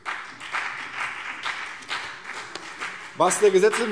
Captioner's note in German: Beifall CDU und BÜNDNIS 90/DIE GRÜNEN